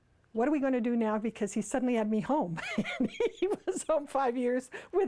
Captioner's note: laughs